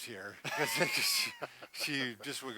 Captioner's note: laughs